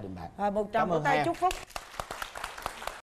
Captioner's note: applause